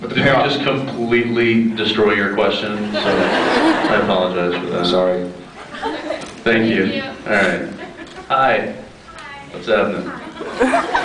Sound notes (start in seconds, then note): 2.8 laughs; 5.6 laughing; 10.4 scattered laughs